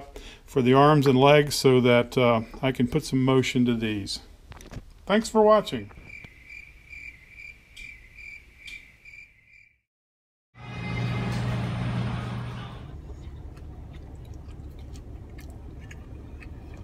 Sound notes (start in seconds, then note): 6.0 crickets chirping; 10.6 roller weenie machine whirring; 12.5 chewing a gas station roller weenie